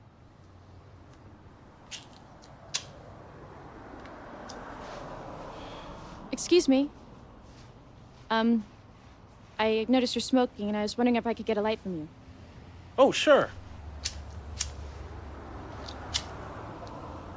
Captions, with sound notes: (lighter clicking) (vehicle engines revving) - Excuse me, I noticed you're smoking and I was wondering if I could get a light from you. - Oh sure. (lighter clicking)